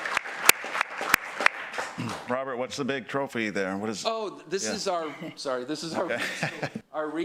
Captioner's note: applause